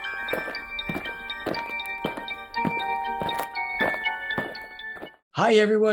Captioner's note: eerie music; aliens marching